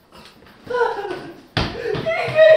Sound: Trina yelping

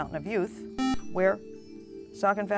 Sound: buzzer

